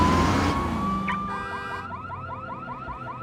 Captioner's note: car alarm beeping